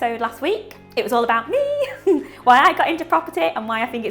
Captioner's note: laughs